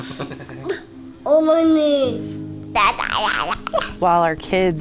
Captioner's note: babbles